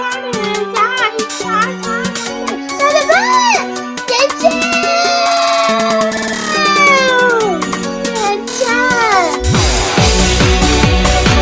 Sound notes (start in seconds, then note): 4.5 screaming